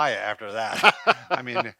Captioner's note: laughing